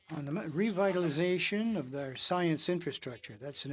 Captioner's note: speaking French